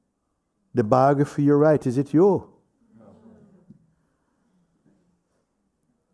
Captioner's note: voices in group